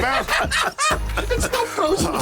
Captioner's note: both laughing